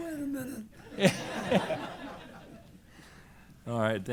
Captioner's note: laughter